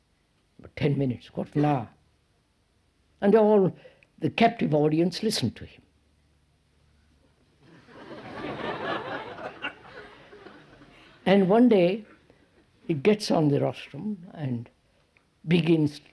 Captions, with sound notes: for ten minutes, quarter of an hour. And all the captive audience listened to him. (Laughter) And one day he gets on the rostrum and begins